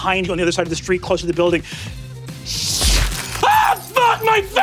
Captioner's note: Brennan mimics glass crashing